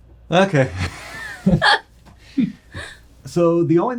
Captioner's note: all laughing